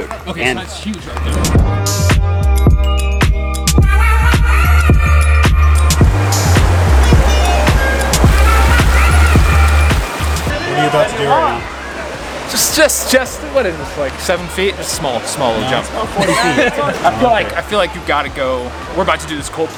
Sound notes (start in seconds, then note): 1.8 energetic electronic music; 6.5 water rushes